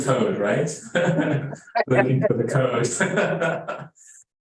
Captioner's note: laughing